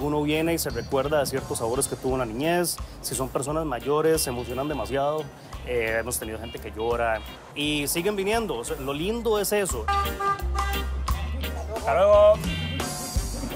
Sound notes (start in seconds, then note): 9.7 horn